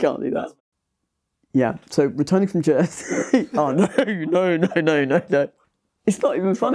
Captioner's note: laughs